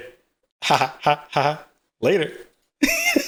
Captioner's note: chuckling; laughing